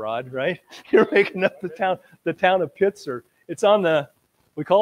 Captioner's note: laughs